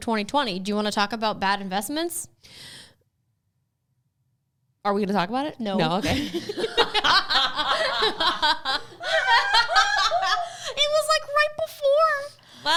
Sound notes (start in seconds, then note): 5.9 laughs